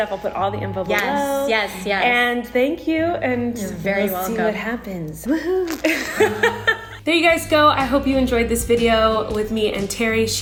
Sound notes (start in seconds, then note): 5.6 both laugh